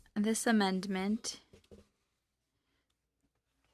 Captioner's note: speaking French